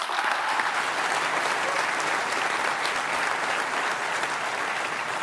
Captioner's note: applause